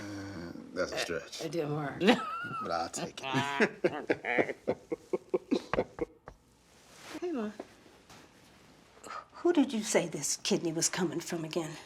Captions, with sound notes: - That's a stretch- - It didn't work. - -but I'll take it. (both laughing) (soft knocking) - Hey, Mama. - Who did you say this kidney was coming from again?